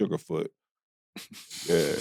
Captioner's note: group chuckling